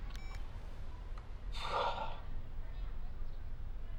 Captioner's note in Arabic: تنهدات